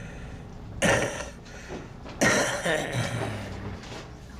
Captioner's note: raspy, Wet Coughing